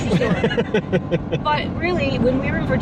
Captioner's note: laughing